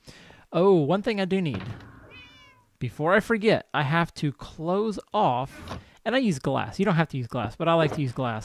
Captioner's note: cat meows